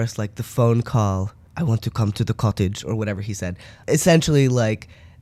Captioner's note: bad Russian accent